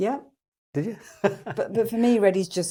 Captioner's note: laughs